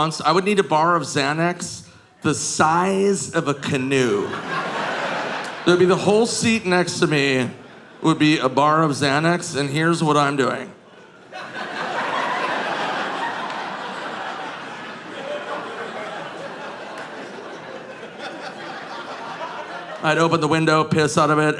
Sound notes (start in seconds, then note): 11.4 audience laughing